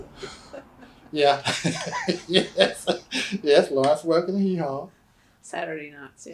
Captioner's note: laughter